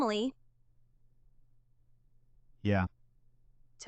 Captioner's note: long pause